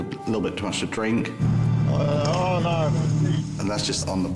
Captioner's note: engine rumbling